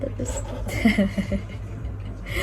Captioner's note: weird laughing